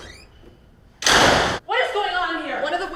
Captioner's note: door slamming